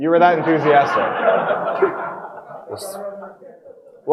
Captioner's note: audience laughing